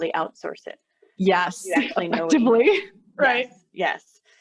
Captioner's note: chuckles